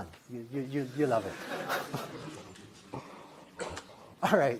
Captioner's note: laughter